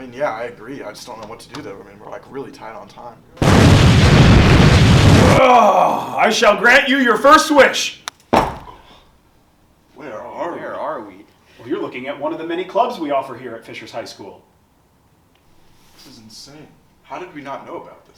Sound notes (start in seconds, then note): 3.4 explosion